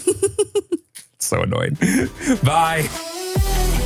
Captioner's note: laughs; bright music